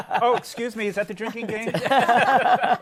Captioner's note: laughter